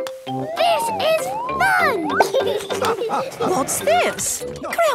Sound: laughing

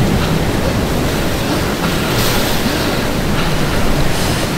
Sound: fast breathing

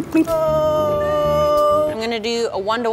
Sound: groaning

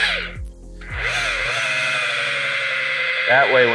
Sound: machine engine revving

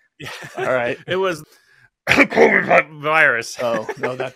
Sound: cough

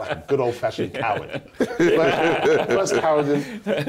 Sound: laughter

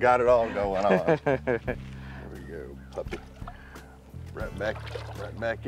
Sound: laughs

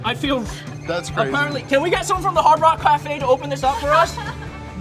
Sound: woman laughs

